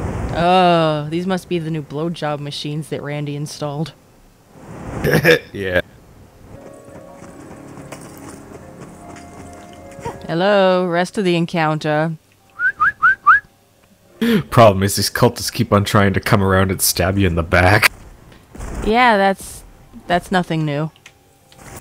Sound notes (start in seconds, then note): 12.5 whistles to call encounter